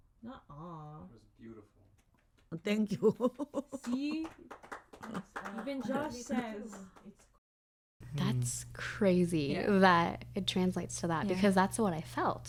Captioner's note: voice on recording; voice on recording